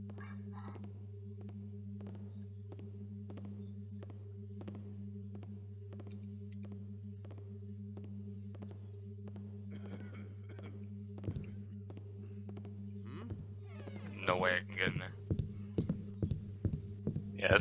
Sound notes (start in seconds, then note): 0.1 distant footsteps on wood; 9.7 distantly, guard coughs